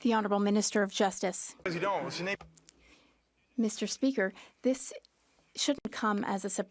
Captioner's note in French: voix de l'interprète